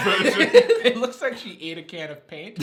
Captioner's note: laughing